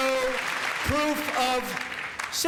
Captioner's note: cheers and applause